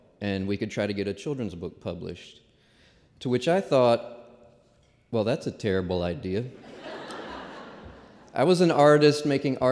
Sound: laughter

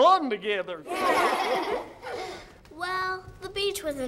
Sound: kids laughing

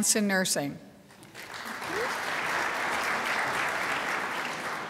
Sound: crowd applauds

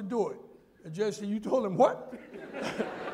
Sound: laughter

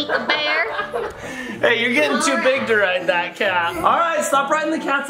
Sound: laughs

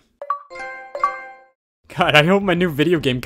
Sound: Xbox and PlayStation sounds

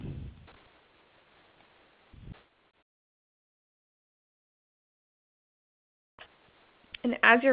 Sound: silence

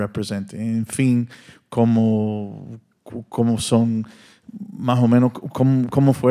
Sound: audience member continues in Spanish

